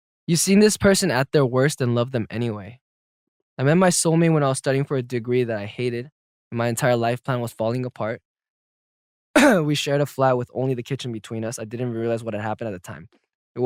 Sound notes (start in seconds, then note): 9.3 clears throat